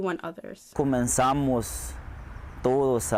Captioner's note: speaking Spanish